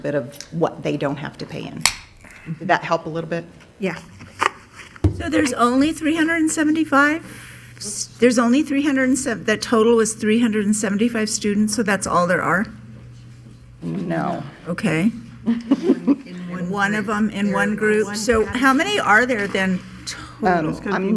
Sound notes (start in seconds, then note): 4.2 woman's Voice; 14.8 woman's Voice